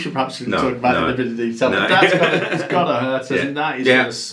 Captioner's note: laughs